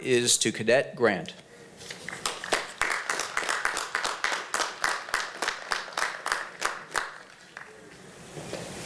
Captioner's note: applause